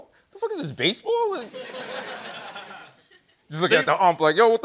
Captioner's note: laughter